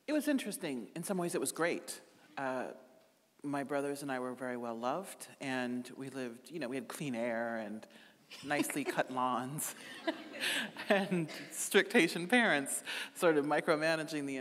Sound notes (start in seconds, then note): 9.7 chuckling